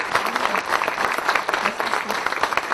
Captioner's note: applause